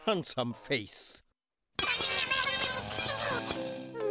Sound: furious chatter

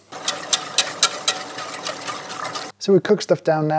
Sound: stirring mixture

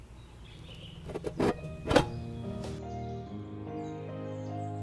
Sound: tin lid pops

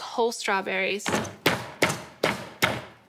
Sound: pounding

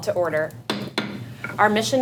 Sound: gavel sound

